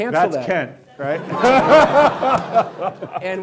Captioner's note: laughing